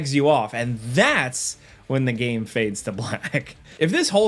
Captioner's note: chuckles